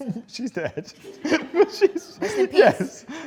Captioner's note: laughs